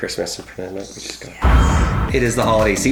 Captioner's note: hisses excitedly; intense music